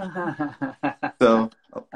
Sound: laughs

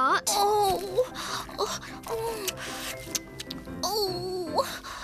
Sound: smacking Lips

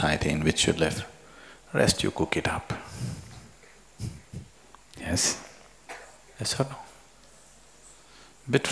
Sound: laughs

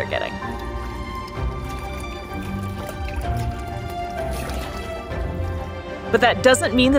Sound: water splashing sounds; background music

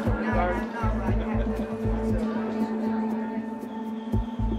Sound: people chatting

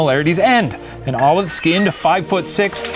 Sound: creaking; crashing

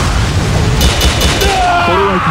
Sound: KO Scream

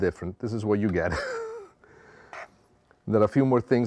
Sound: laughs

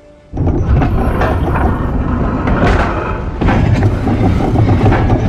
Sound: mechanism moving

